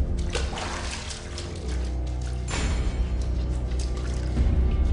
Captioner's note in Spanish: Sonido del agua al frotarse